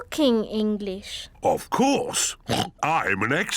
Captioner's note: oinks